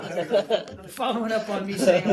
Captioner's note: laughter